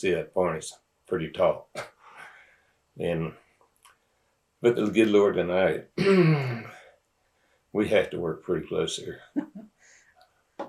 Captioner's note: laughter